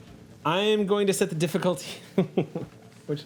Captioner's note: chuckling